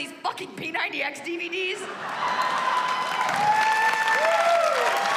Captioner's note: cheers and applause